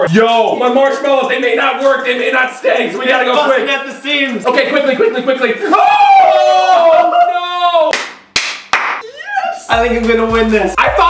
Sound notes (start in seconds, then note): 8.3 claps